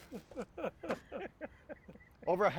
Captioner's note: laughing